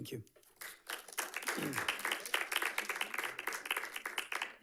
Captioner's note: audience clapping